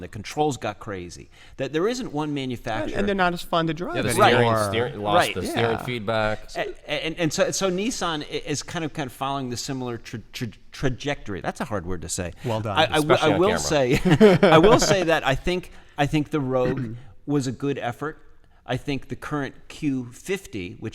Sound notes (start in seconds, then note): 13.5 laughter